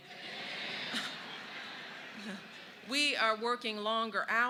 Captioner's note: laughter